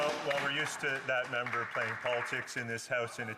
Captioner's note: some Applause